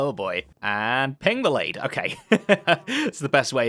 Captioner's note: laughs